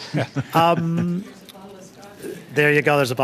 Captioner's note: laughter